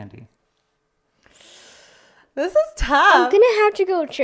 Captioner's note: inhales